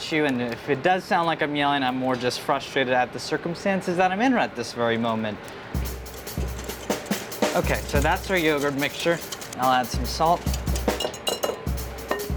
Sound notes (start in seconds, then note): 5.7 up-tempo percussive music; 5.7 whisk scrapes bowl